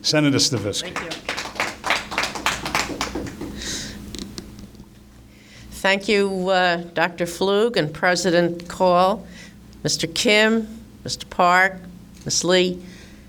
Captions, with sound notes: Senator Stavisky. - Thank you. (applause) Thank you Dr. Flug and President Call, Mr Kim, Mr. Park, Ms. Lee.